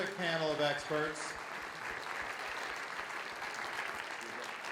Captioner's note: audience applauds